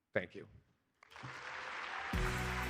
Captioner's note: applause